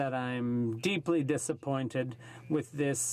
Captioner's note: speaking French